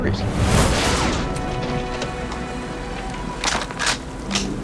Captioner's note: bullet zinging; metal clicking